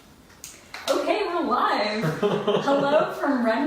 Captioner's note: laughs